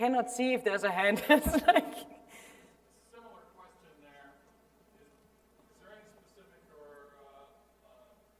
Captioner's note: laugh